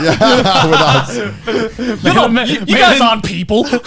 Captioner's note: laughing loudly